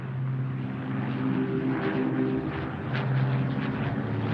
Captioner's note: plane engine roaring